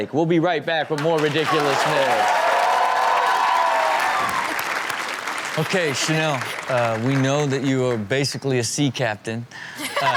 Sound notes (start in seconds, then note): 0.9 audience applauding; 9.8 Chanel laughs